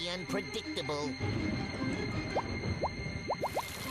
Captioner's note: thunder rumbling